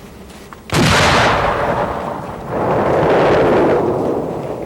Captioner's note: loud explosion